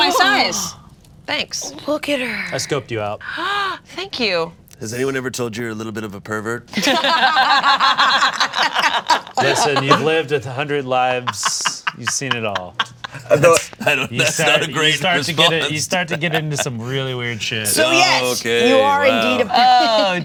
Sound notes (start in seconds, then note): 6.7 Delores and Bug laugh